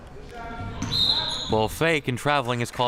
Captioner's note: whistle chirping